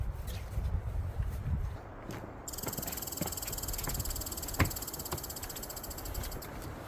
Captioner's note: wind howling